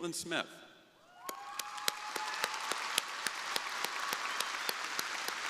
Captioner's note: crowd applauding